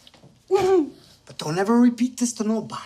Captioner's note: she giggles